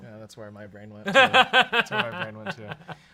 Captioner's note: laughs